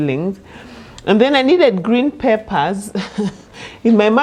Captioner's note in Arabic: يضحك